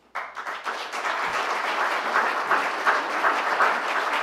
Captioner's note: applause